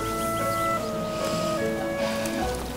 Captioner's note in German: Seufzen